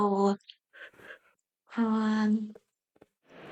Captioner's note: gasp